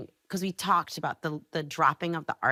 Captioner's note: none